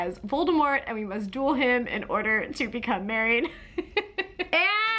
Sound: laughs

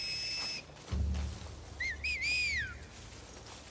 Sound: response Whistles!

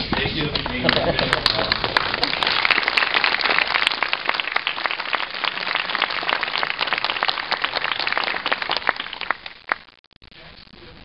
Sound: clapping

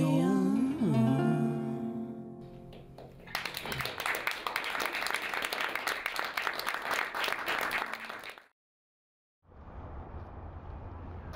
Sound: applause

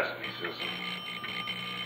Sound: doorbell ringing

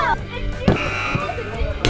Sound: buzzer

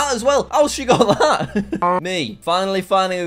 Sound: laughs

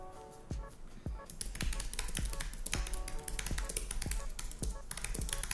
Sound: keyboard clicking

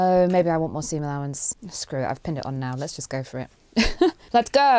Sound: laughs

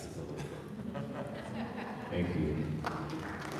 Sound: audience laughing

